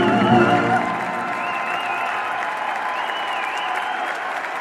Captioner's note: applause